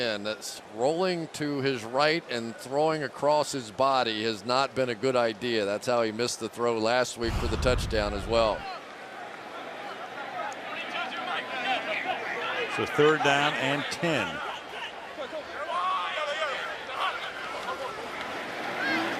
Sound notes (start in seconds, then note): 4.8 players shouting; 9.0 players shouting